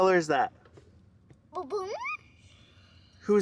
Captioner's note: vocalizing